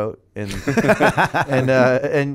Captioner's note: laughter